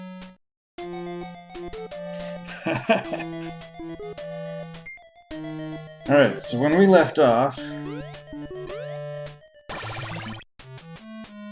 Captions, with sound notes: [chuckles] All right, so when we left off...